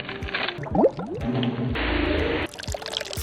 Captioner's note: water burbling; cream sloshing